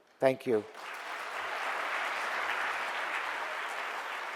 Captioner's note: audience applause